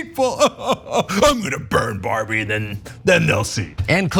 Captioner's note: laugh